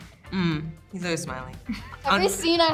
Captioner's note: Hunter laughs